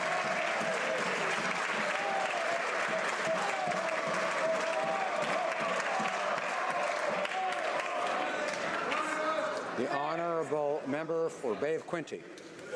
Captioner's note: applause